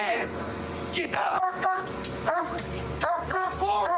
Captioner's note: barking